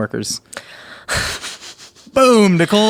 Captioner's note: laughing